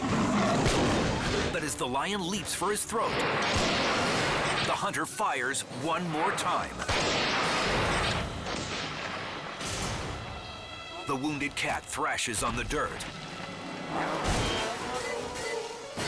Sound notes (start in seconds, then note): 0.0 lion roars; 3.2 rifle blasts; 6.8 rifle blasts; 12.7 lion thuds